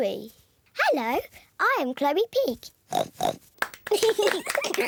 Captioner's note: oinks; both giggle